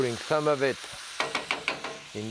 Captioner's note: spoon tapping